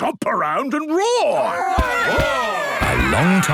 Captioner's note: all roaring